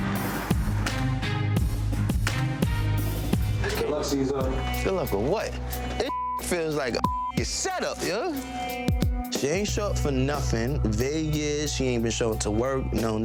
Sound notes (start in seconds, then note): 0.0 intense music; 6.8 beeps